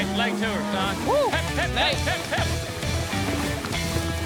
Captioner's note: shouting